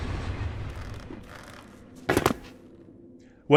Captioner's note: feet landing